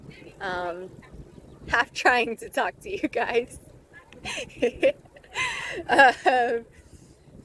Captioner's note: laughs